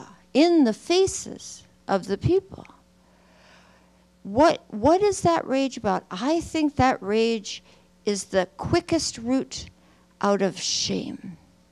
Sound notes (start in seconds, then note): none